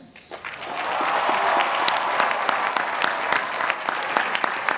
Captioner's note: applause